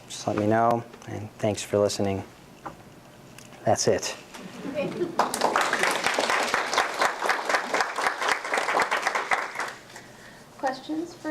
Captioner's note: applause